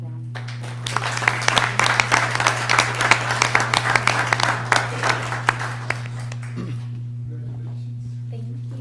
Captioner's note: applause